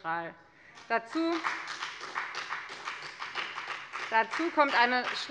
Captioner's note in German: Beifall bei der FDP